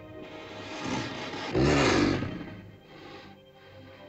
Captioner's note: ominous music; dinosaur growls; sentimental music